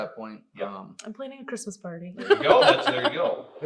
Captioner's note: laughs